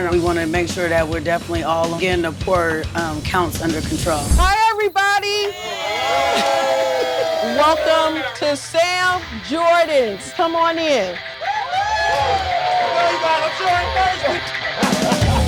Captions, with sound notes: And we wanna make sure that we're definitely all getting the pour counts under control. - Hi, everybody. - Hey. Hello. Welcome to Sam Jordan's. Come on in. [CHEERING] [CHATTER]